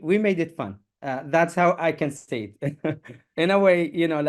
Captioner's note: chuckles